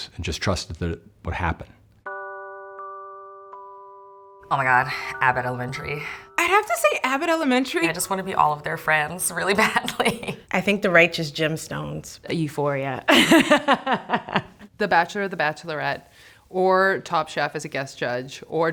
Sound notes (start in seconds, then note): 2.0 relaxing music; 10.1 laughs; 13.1 laughs